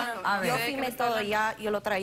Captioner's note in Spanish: Hablan al unísono